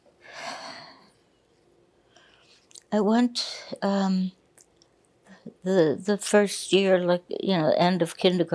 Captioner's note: sighing